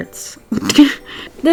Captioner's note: laughs